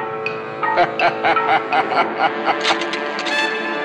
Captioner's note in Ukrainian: злісний зрадливий сміх